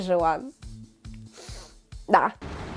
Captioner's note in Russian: вздох